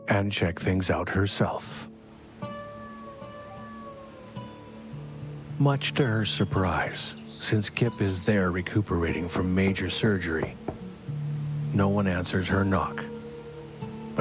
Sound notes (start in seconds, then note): 2.6 wind blowing